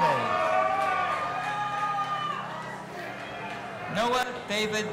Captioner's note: audience applauding and cheering